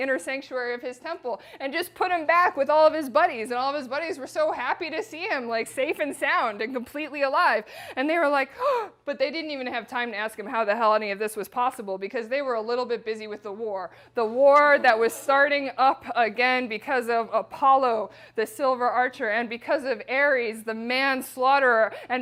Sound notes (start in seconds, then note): 7.6 gasp